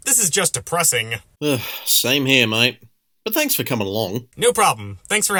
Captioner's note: sigh